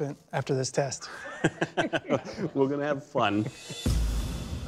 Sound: laughter

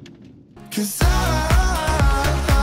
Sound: none

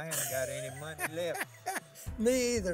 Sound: laughing

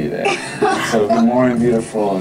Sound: Tila laughs

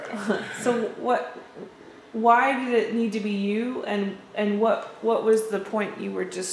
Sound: laughter

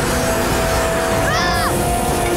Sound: shrieking

